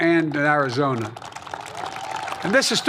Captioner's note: applause